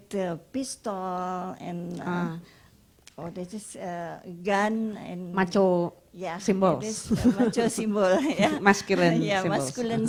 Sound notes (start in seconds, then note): 7.1 laughs